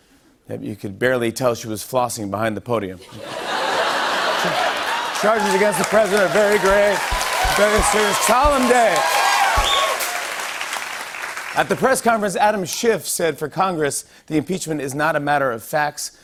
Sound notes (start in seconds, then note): 3.0 laughter; 9.3 cheers and applause